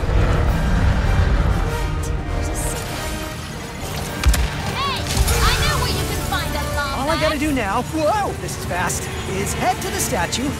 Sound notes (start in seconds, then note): 0.0 turbulence; 3.9 shatter, crash; 7.1 shatter, crash